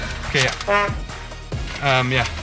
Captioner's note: horn beeps